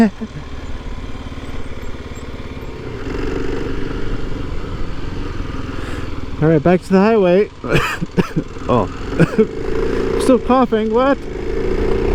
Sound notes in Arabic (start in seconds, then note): 0.0 ضاحكاً; 9.0 سعال